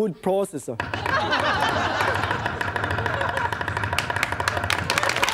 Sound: chopping; audience laughing; audience clapping

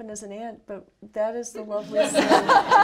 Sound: laughter

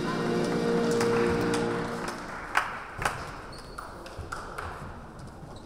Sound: players applauding

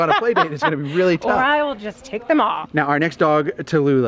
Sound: laughs

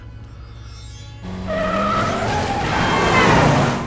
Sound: screeching

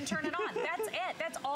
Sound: laughter

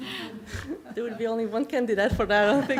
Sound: laughter

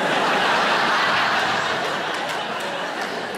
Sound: audience laughs

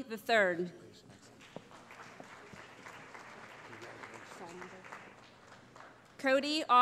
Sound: applause

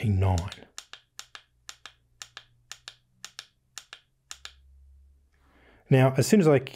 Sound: clicking

